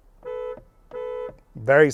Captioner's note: horn beeps